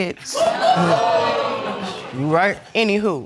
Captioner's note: audience laughing